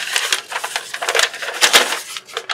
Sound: paper crinkles

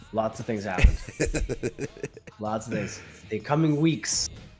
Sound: laugh

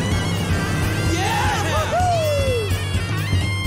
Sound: cheering

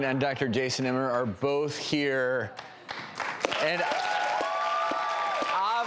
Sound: applause and cheering

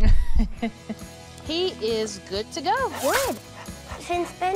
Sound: laughs

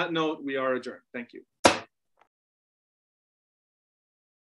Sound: gavel bangs

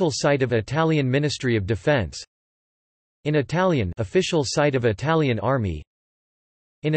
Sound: in Italian

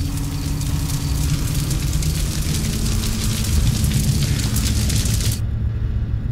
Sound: static increases

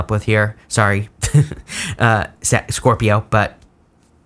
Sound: laughs

